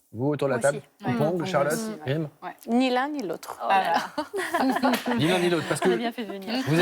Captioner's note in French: rires